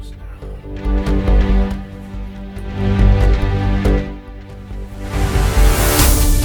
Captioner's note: upbeat music; water splashing